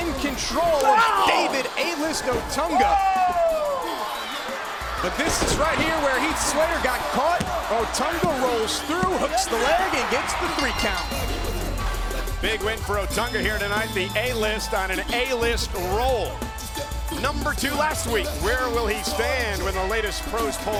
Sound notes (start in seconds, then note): 10.3 bell ringing